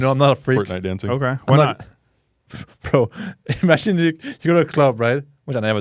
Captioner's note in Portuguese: risos